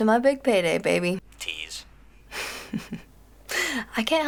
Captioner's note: chuckles